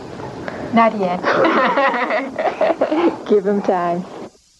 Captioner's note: laughter